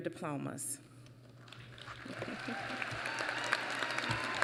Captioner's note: applause